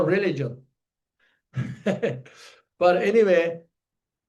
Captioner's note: laughs